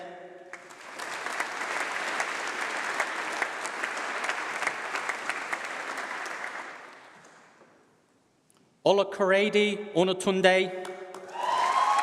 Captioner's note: applause; applause